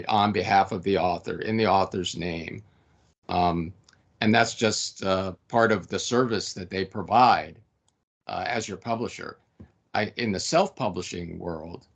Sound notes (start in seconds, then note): none